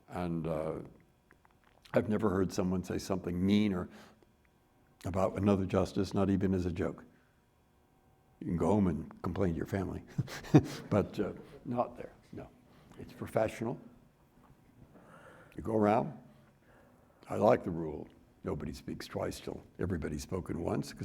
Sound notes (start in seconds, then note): 10.1 chuckles